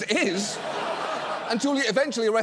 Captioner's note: studio audience laughs